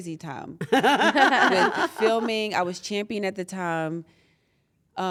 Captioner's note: laugh